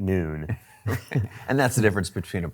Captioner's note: both laugh